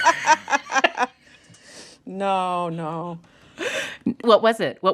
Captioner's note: laughter